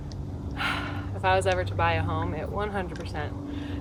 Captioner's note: sighs